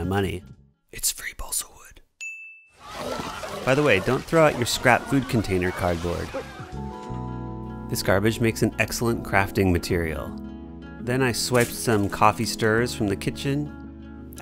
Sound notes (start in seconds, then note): 0.9 whispers